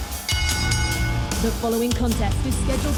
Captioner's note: bell rings